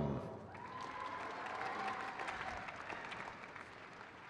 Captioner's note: crowd claps